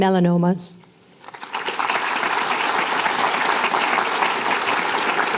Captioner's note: applause